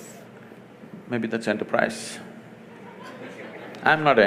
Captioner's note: laughter; 笑聲